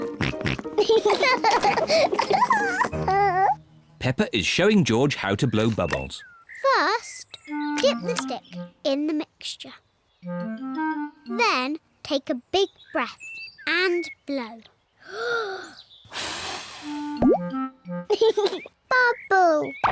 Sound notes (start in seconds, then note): 0.2 both oink and laugh; 16.0 takes big breath and blows; 18.1 laughs